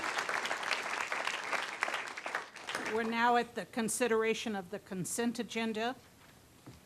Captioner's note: applause